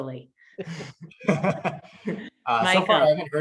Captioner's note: all laugh